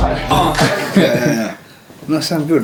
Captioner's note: laughs